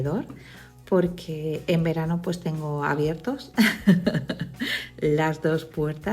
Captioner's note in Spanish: risas